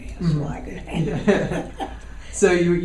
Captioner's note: laughs